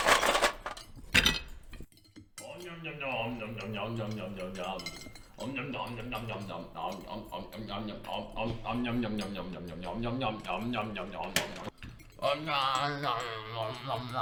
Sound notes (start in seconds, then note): 4.8 loud food noises